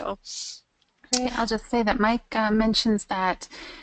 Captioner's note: voiceover